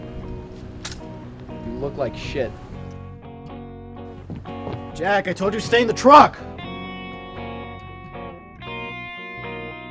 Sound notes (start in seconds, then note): 0.6 sword clinks